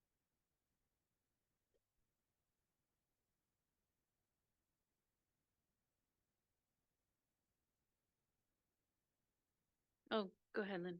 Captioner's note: audio cuts out